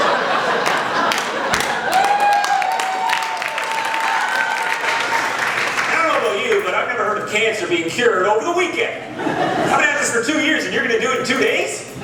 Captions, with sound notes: (Applause) And I don't know about you, but I've never heard of cancer being cured over the weekend. I've been at this for two years, and you are going to do it in two days?!